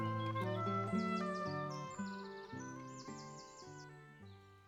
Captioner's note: birds chirping